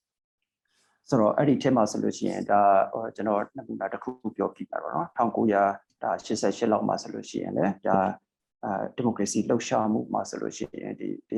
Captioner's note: speaking burmese